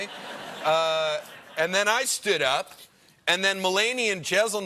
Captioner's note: laughter